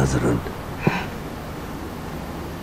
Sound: gasps in shock

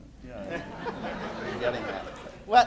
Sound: laughter

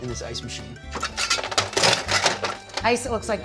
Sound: ice scrunching

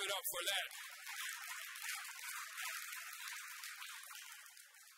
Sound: audience applauds

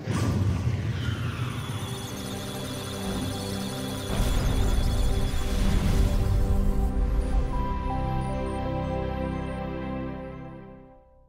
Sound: electronic Sounds of Data; musical Tones

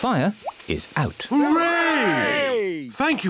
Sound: cheering

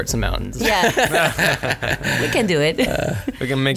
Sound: laughter

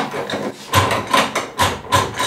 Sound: rattling

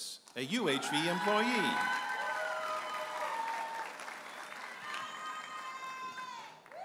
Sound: audience applauding and cheering

